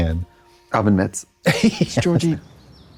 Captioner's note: laughs